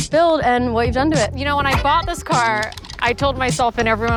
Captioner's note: whistle chime